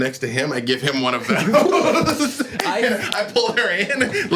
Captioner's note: laughs